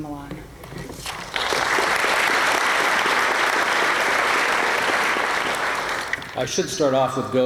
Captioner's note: applause